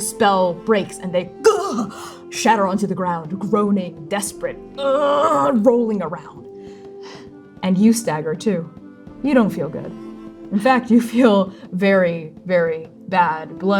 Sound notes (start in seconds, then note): 6.5 exhaling